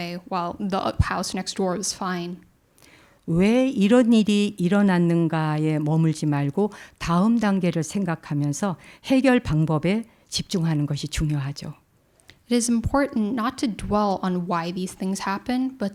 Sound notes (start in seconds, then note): 3.8 speaking in Korean